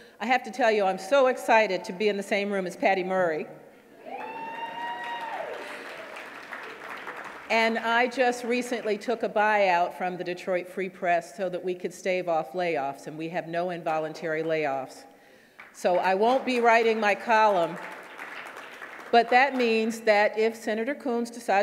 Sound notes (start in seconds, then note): 4.0 woman cheering; 5.7 audience clapping